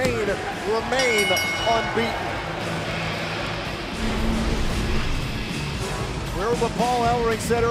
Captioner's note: bell ringing